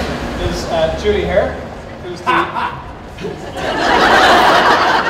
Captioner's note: crowd laughs